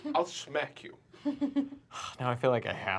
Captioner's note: laughter